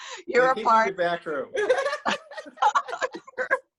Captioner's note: laughs